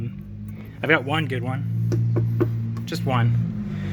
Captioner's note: car engine roaring